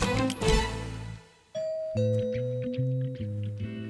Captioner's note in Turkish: Kapı zili sesi